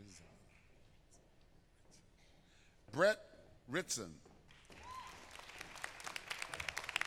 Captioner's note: applause